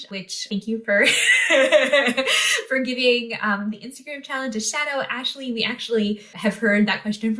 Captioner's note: laughter